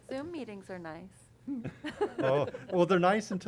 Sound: laughter

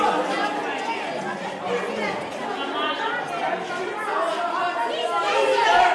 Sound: kids talking

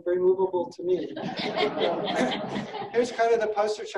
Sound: laughing

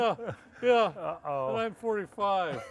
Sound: men laughing

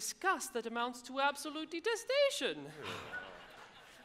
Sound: audience laughs

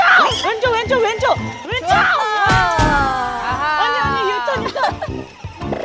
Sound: collision

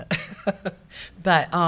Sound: laughs

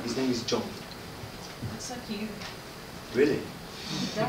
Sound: voice from audience

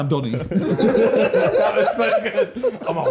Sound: laughing

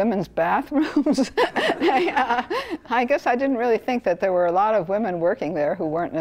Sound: laugh

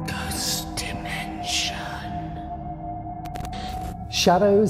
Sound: ghostly Voice

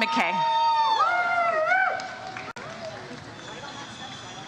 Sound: audience cheers

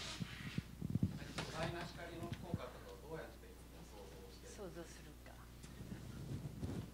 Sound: non-english speech

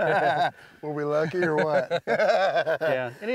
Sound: laughter; laughs

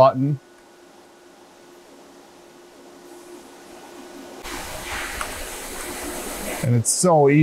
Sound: machine noise

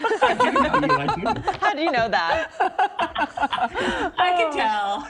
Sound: laughter

